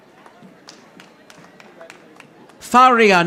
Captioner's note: audience applauding